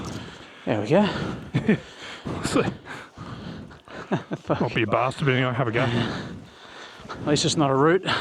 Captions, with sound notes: There we go. (laughing) Might be a bastard being able to have a go. At least it's not a route.